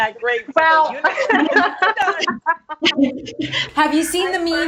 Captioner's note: all laughs